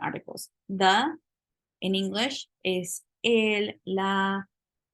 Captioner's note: spanish